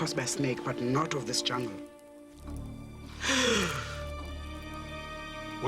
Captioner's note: gasps